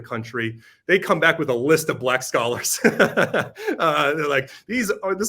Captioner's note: laughs